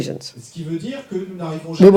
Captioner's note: audience member speaks in French